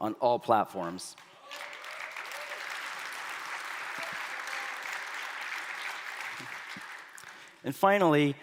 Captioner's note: applause